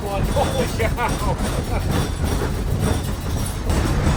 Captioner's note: metal rattling